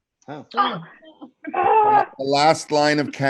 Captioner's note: growls